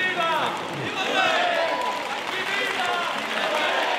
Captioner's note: applause